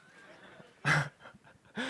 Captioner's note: laughter